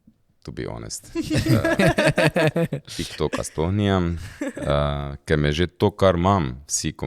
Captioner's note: laughs